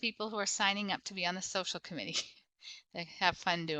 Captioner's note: chuckles